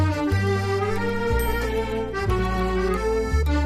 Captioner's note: tiny bell sound